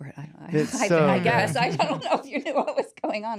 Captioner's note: laughing